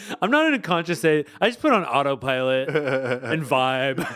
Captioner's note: laughing